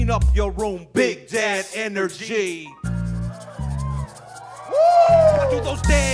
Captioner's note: audience cheering